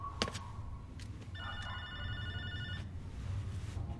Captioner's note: doorbell ringing